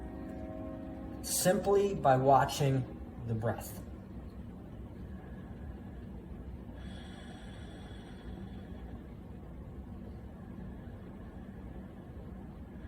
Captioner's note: deep breath